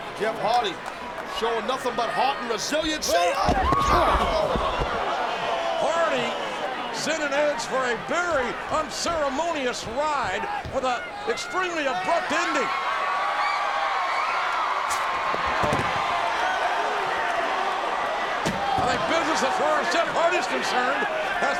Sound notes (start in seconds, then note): 2.8 body thuds; 5.0 audience groans; 13.1 audience cheering; 15.4 desk thuds